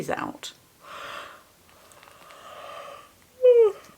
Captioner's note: yawns